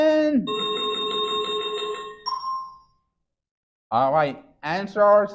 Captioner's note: chiming sound effect